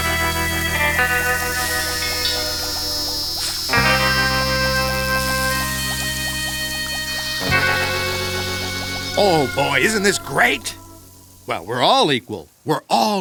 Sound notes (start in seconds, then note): 1.1 sizzling